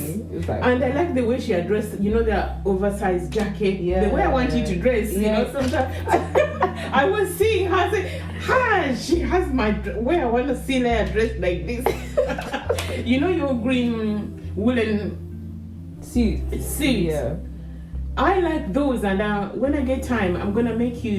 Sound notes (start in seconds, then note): 11.9 hahahahaha